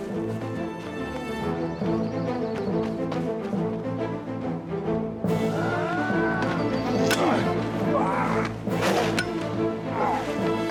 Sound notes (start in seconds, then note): 0.2 epic music playing; 5.3 shouting, grunting and groaning